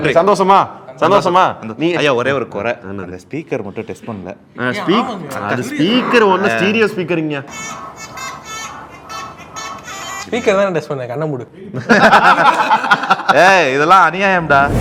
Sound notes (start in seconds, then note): 11.8 everyone laughs